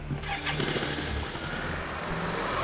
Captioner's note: engines starting